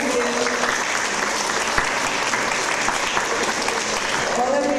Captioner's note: audience applause